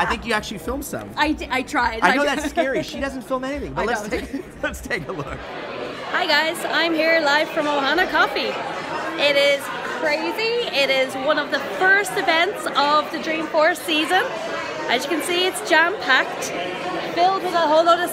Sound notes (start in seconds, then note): 1.9 laughs; 3.9 laughs